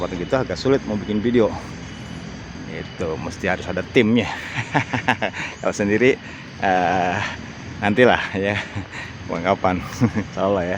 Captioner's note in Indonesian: tertawa